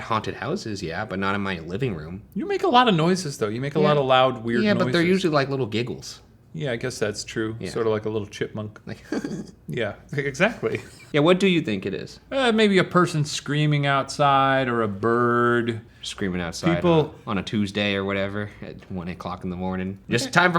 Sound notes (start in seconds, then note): 8.9 giggles